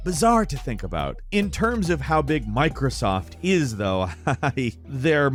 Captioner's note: laughs